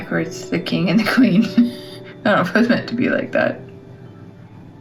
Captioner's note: laugh